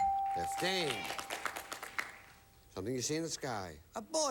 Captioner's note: audience applauding